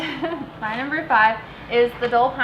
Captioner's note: giggling